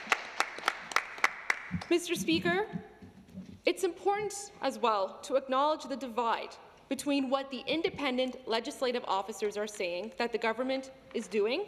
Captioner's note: some Applause